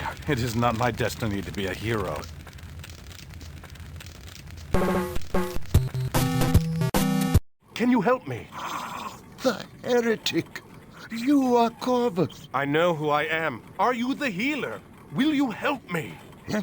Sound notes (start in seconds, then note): 2.3 fire crackling; 8.4 gasps